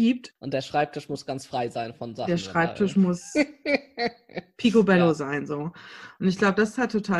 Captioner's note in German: lacht